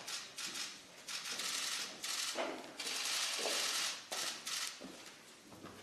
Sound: camera shutters

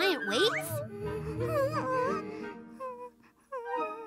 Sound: Jojo whimpering

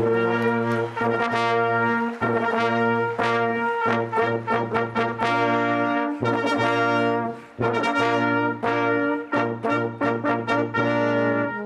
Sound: cheers and applause

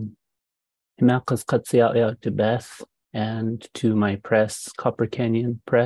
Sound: speaking indigenous language

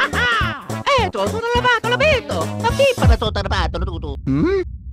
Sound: italian gibberish

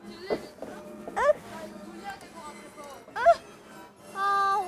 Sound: struggles

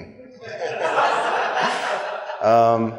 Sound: laughter

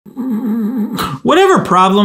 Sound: snores

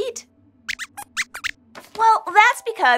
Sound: squeaks squeaks curiously

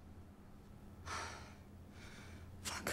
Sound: sighs

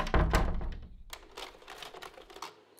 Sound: door closes; slide projector clicks

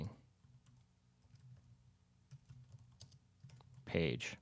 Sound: typing

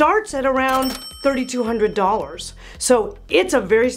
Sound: bell rings

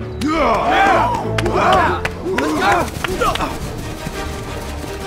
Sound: yelling and grunting; dramatic music

